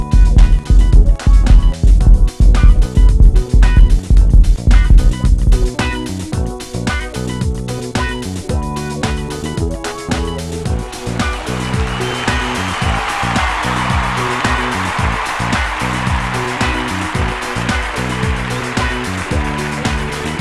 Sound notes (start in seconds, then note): 11.0 audience cheers